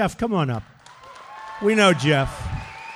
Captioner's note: applause